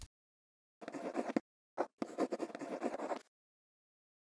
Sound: quill scribbling

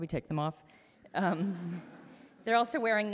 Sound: audience laughs

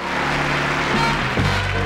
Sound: audience applause; upbeat band music

